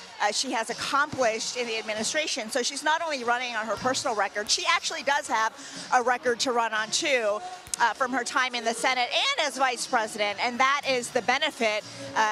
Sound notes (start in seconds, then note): none